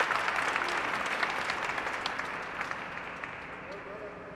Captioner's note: applause